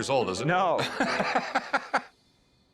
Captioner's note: laughter